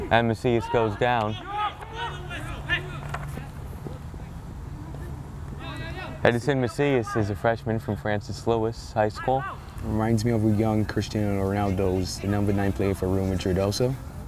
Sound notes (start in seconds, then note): 1.7 players talking and yelling